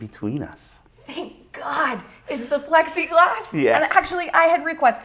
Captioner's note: laughing